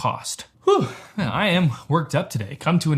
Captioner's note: sighs